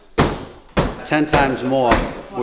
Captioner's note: loud stomping